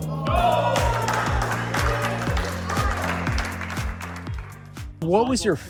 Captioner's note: cheering